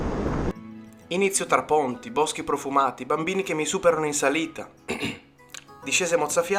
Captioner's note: ahem